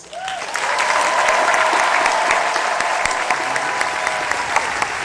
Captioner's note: applause